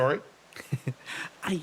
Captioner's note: Etete Chuckle